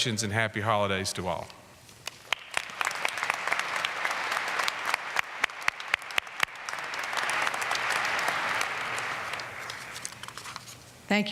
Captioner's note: applause